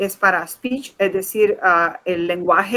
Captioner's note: speaking in Foreign Language